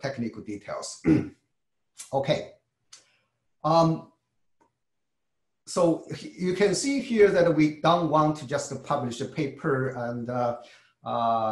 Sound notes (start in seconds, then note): 0.9 cough